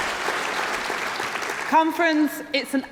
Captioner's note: applause